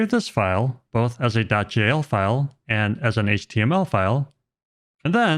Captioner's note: none